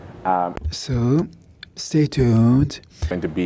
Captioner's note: speaking in French